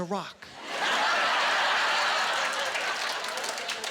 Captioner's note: laughing